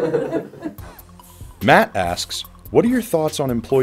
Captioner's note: voiceover